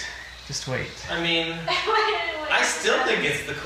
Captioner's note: laughs